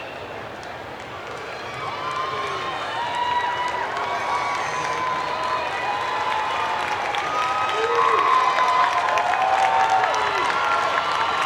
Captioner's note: cheers and Applause